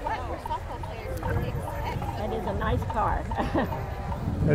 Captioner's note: people chatter; laughs